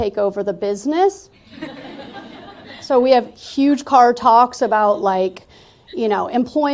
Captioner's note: laughter